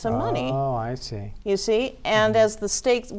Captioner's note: pat